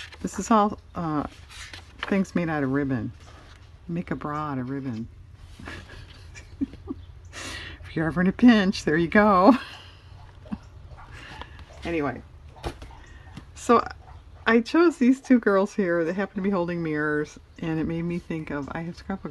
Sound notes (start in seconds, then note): 5.6 laughs